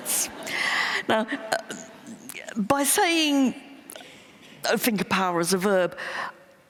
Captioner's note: laughter